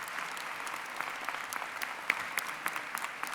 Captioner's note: applause